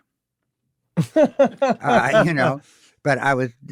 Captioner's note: laughs